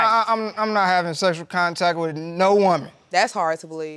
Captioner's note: stammers